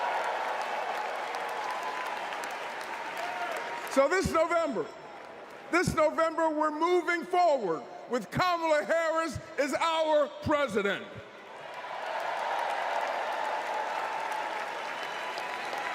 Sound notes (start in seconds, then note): 3.9 applause